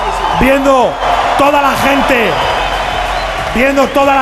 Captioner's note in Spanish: Aplausos y gritos